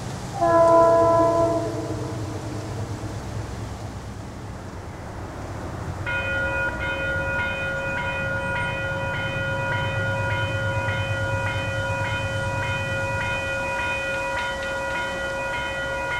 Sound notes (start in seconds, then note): 5.9 crossing Bells